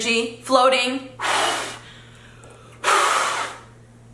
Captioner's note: blowing